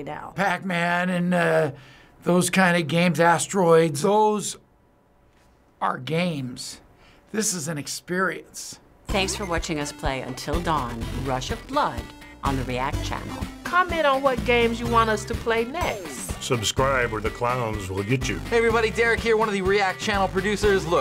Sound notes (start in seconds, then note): none